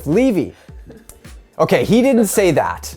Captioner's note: chuckles